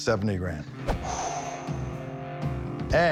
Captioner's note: exhales